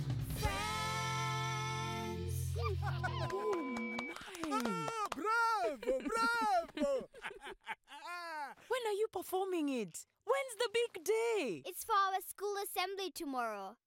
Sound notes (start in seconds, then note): 2.6 cheering; 7.0 laughing